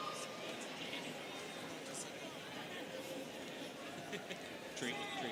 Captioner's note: students chattering